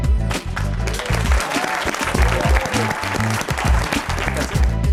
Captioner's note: applause